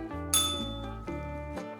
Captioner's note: bell rings